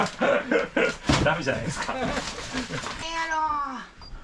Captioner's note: laughs